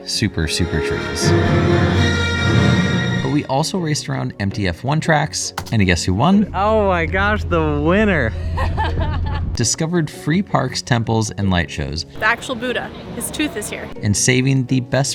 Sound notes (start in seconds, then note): 5.6 click; 8.3 laughter